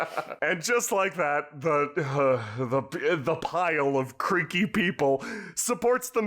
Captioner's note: laughter all around; heugh, stammering